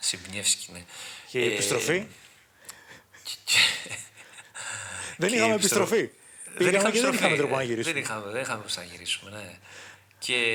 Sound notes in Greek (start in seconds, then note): 3.6 γέλια